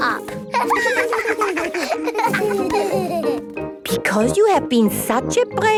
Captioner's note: laughter